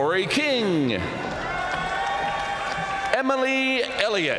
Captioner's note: audience cheering and applauding